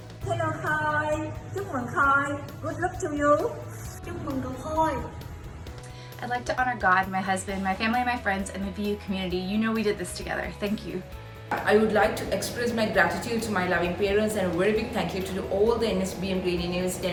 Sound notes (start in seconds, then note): 0.7 speaking foreign language; 3.9 speaking in foreign language